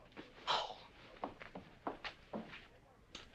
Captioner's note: huffing